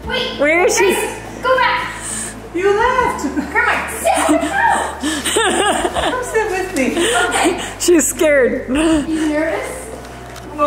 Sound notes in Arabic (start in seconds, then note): 5.6 ضحك